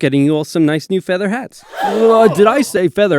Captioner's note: gasp